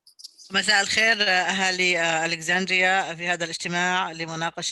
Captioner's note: speaking in Arabic